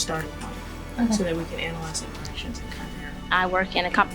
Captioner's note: speaking faintly; speaking faintly